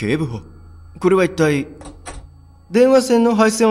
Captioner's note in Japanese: ドアを開く音：カチャ